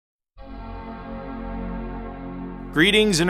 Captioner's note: Mac startup sound